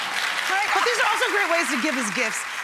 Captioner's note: clapping